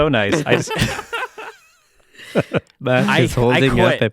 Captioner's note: laughing